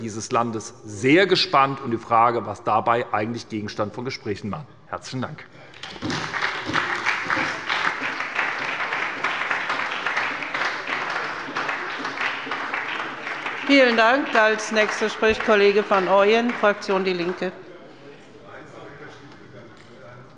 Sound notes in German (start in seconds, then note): 5.7 Beifall bei der SPD